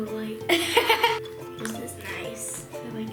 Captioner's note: laughter